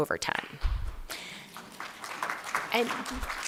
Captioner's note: applause